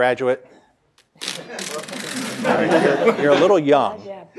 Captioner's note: audience laughs